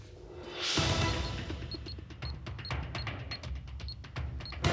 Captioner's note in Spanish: sonido al teclear